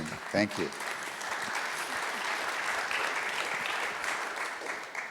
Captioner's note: audience applauds